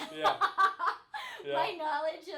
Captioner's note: laughing